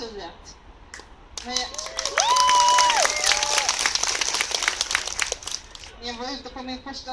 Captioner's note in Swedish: Applåder